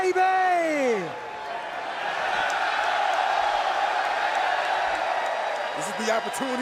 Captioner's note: crowd cheering